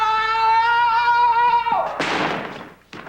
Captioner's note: bam!